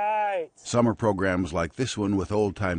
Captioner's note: voiceover